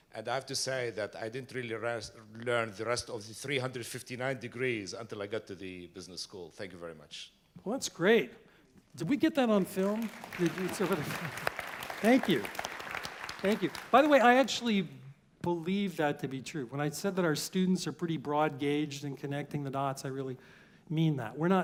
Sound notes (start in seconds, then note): 9.4 applause